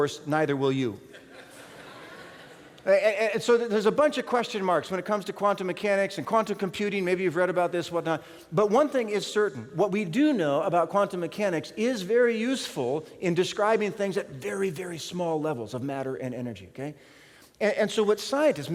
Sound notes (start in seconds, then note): 1.1 laughter